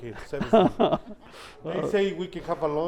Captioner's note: doctor laughs